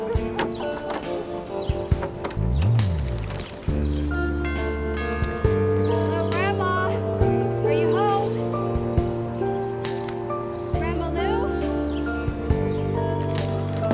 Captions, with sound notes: (door latch rattling) (doorbell rings) Hello, Grandma, are you home? Grandma Lou?